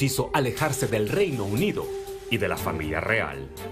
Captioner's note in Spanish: AUDIO EN INGLéS